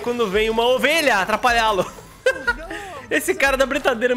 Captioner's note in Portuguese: risos